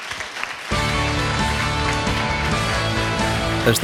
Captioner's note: applause